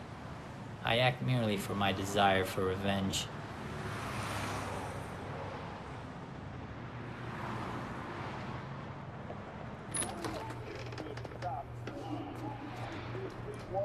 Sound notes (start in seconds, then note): 10.2 chatter over TV